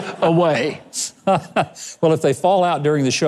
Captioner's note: Mike laughs